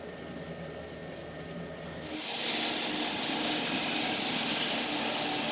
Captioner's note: log saw whirring